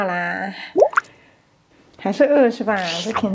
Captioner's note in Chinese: 奶声奶气的